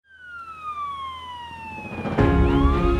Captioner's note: sirens blaring; upbeat music